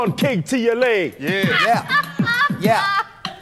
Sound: woman laughs off camera

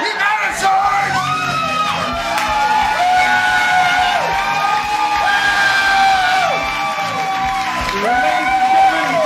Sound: cheers & applause

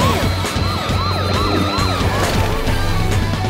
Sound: siren blaring

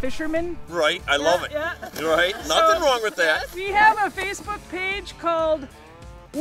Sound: laughing

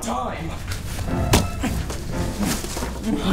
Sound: Allan panting

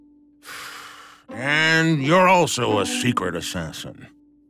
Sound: sighs

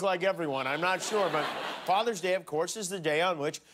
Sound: laughter

